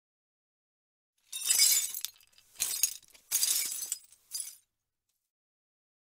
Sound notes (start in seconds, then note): 1.3 sound of debris